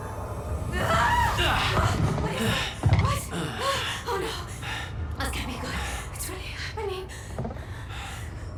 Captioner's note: screams